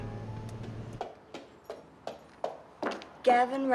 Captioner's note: footsteps approaching